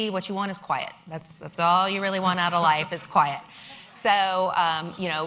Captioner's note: laughter